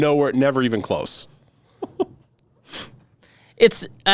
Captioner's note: giggles